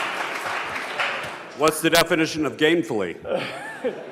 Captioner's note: applause